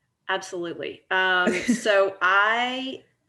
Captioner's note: laughing